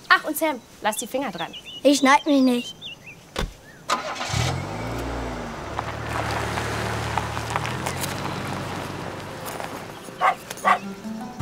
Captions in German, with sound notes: Ach, und Sam, lass die Finger dran. - Ich schneid mich nicht. (Motorstarten) (Hundebellen)